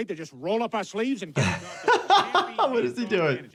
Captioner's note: doctor laughs